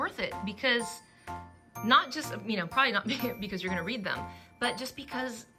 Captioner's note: laughs